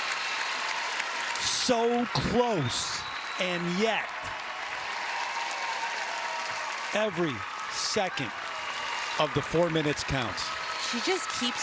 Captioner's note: cheers and applause